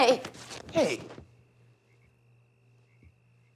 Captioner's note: fabric rips